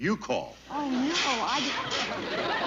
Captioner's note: rattling